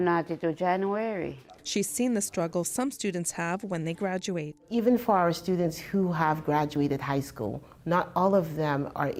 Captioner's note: speaking indigenous language